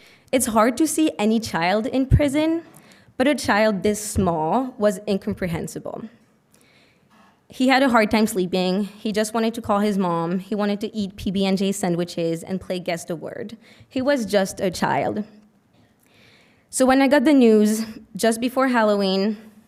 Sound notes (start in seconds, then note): none